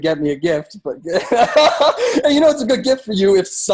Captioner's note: laughs